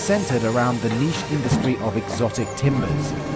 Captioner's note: bus door close